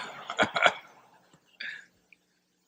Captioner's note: laughter